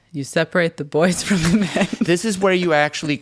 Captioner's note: laughs